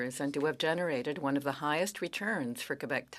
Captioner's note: speaking French